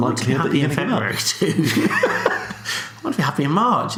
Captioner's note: laughs